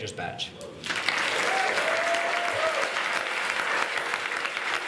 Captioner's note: clapping and cheering